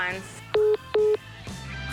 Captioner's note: phone message beeping